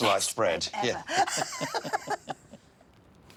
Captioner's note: laughs